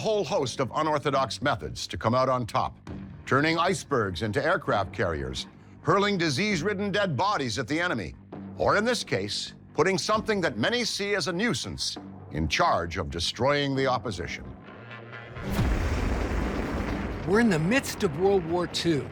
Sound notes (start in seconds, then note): 15.4 tank guns booming